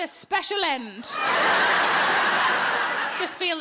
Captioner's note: audience laughing